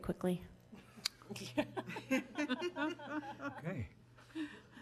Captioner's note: group laughing